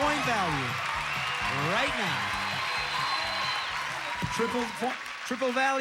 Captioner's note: audience applauding